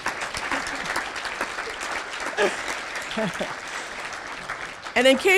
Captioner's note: applause